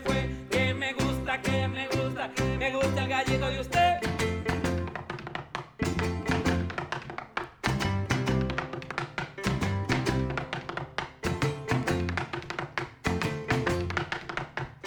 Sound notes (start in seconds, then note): 4.7 tapping